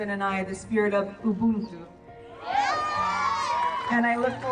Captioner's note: group cheering